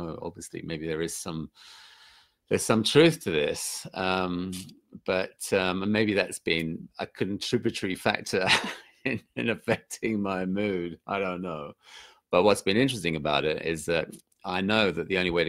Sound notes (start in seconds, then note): 8.8 laughs